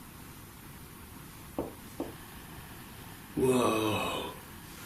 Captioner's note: tapping